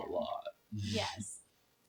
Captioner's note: laughs